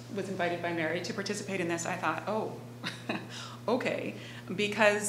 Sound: laughing

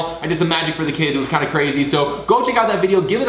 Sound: none

